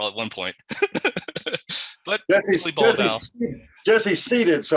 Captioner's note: laughs